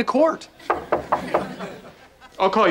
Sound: knocking

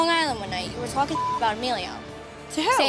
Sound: beep

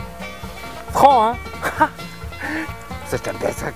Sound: laugh

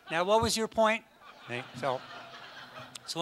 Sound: audience laughs

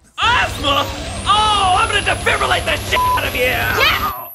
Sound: beep

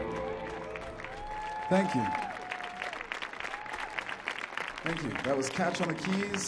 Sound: audience applauding

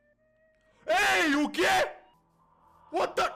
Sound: in Portuguese; in English

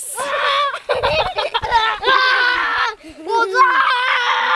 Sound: screams

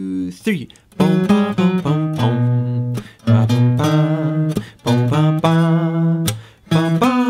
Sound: strings strumming; humming

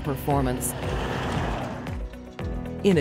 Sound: truck passing

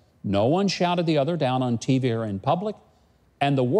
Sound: none

